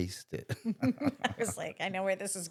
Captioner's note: laughing